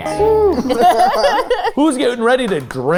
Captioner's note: group laughing